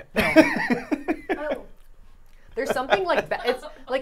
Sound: laughing

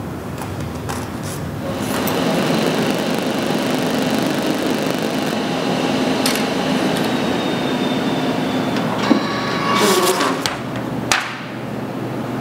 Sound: sound of printer

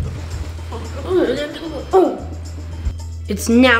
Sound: groaning

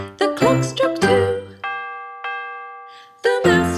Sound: clock chiming

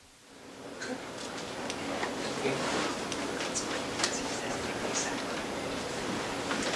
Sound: audience murmurs

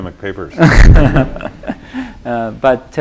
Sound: laughter

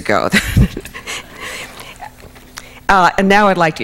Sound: laughs

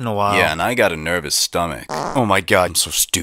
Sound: fart

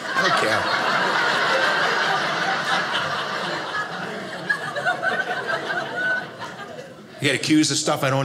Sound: audience laughing

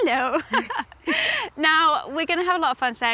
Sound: laughs

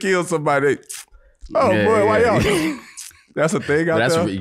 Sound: smacks lips

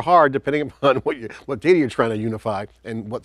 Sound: chuckles

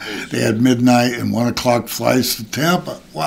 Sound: laughs

